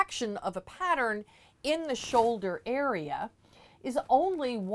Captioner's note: mic static